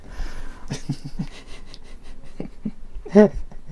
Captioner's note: soft chuckles; croaky laugh